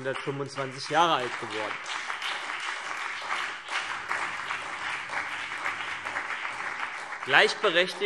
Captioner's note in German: Beifall CDU, BÜNDNIS 90/DIE GRÜNEN und SPD